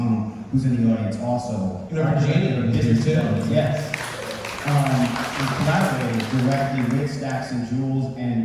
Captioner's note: audience applause